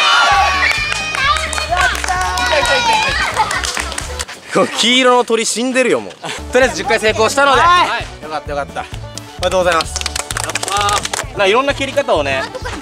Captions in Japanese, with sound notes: (拍手) この黄色の鳥死んでるよ笑 とりあえず10回成功したので ン、はあ～い‼ よかったよかった おめでとうございます やったー なんか、色んな蹴り方をね